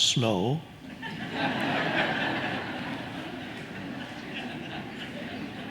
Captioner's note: audience laughing